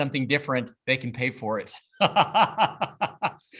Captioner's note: laughs